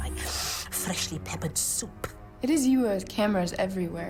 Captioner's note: none